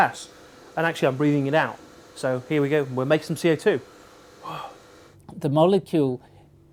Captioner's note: breathes out